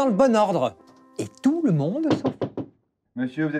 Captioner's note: knocking on the door